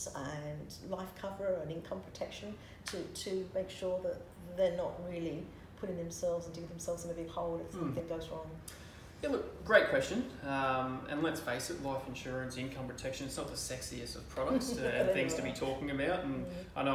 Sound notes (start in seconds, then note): 14.5 chuckles